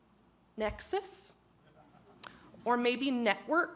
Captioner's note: audience laughs